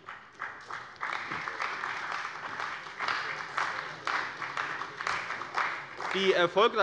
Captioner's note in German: Beifall bei der CDU und dem BÜNDNIS 90/DIE GRÜNEN